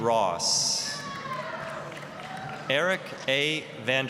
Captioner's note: applause, cheering